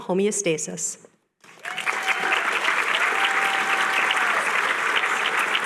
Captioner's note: applause